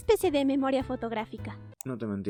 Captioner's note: click